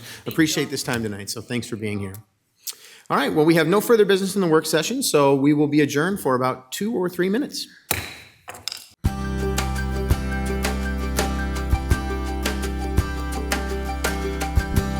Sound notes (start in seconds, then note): 8.0 gavel knocks; 9.0 bright music